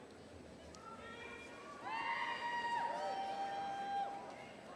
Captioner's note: audience cheering